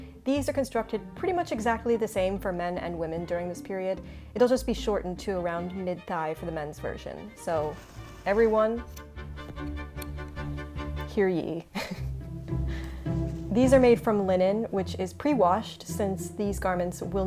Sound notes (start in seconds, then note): 11.7 chuckles; 11.7 bright music